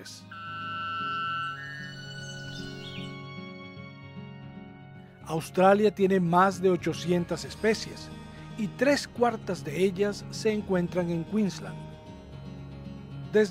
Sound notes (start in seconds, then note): 0.1 uplifting music; 2.7 birds calls